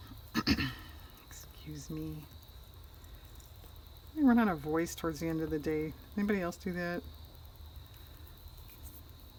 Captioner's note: clears her throat